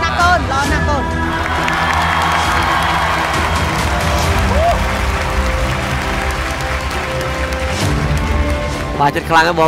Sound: cheer and applause

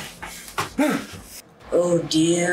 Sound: exclaims

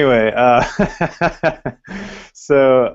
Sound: laughter

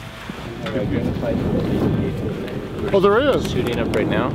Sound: wind gushing

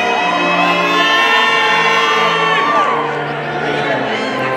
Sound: people cheering

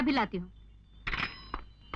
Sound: receiver hang up

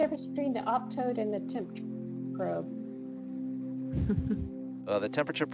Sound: chuckles

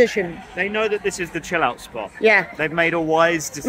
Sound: none

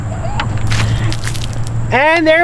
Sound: liquid splashing

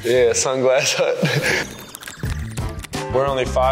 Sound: laughs

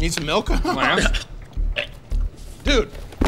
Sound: retching

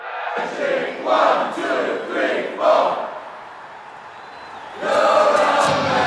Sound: crowd continues chant

